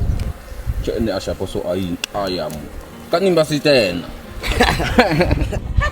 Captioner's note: speaking native language